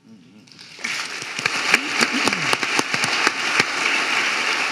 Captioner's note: audience applauding